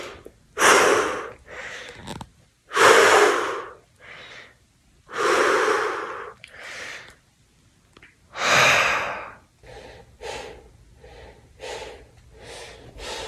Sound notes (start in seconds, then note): 2.8 heavy exhales